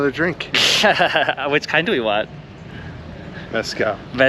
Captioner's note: still giggling